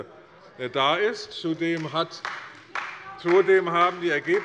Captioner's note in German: Beifall bei der CDU